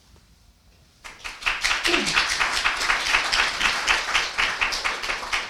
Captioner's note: audience applauding